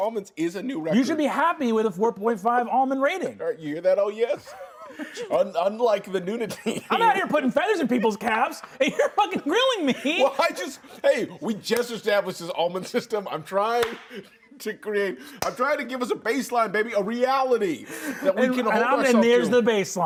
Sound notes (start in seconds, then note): 6.4 laughs